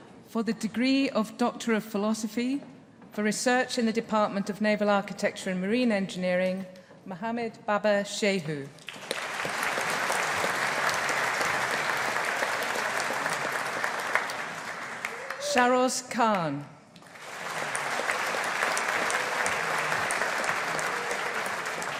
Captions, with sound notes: For the degree of Doctor of Philosophy for Research in the Department of Naval Architecture and Marine Engineering, Mohammed Baba Shehu. (AUDIENCE APPLAUDING) Shahroz Khan. (AUDIENCE APPLAUDING)